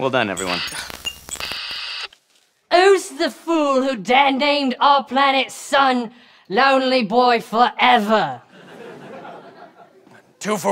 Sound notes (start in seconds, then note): 0.2 intermittent signal